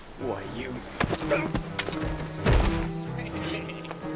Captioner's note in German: grunzt; lacht